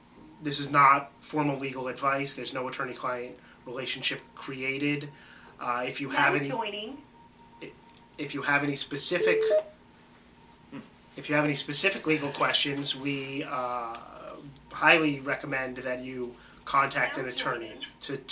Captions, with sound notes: This is not formal legal advice. There's no attorney-client relationship created. - [Automated Voice] Joining. - If you have any specific, (phone beeps), if you have any specific legal questions, we highly recommend that you contact an attorney to-